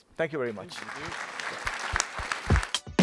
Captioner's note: applause